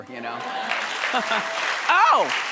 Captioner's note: audience cheering